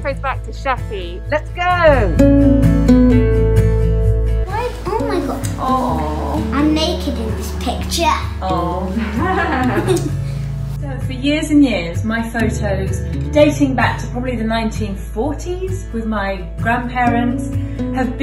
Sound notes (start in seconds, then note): 2.2 gentle upbeat music; 8.9 laughing